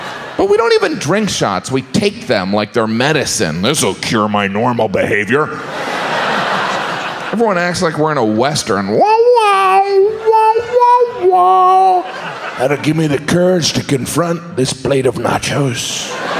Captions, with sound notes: but we don’t even drink shots, we take them like their medicine "this will cure my normal behaviour." Everyone acts like we're in a western. (Western sound effect) "that will give me the courage to confront this plate of nacho’s"